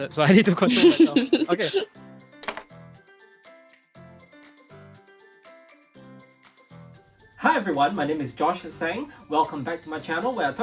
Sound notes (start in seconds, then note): 0.6 moderator chuckling; 2.5 glasses clinking; 4.0 bright music